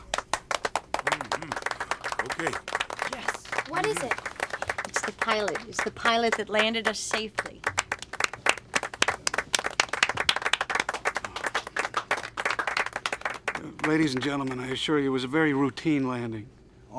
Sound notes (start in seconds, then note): 7.7 applause Continues